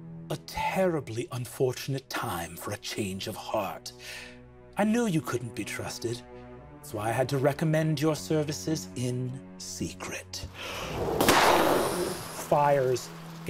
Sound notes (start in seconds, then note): 10.9 gunshot sound